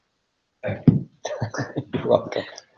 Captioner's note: laughing